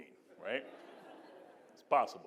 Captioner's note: audience laughing